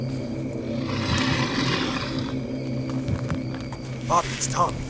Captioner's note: growls